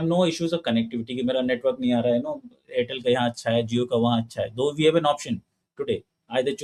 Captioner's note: speaking hindi